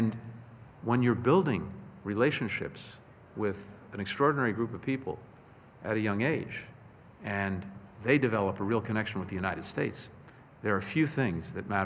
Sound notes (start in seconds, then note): none